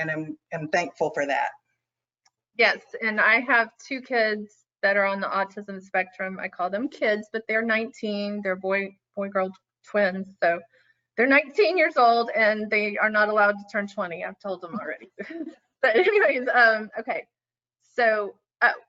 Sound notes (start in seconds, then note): 15.9 chuckles